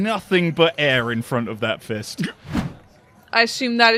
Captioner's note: whoosh